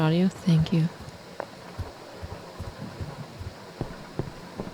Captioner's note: thunderstorm quiets